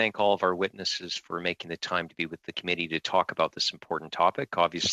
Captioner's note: speaking French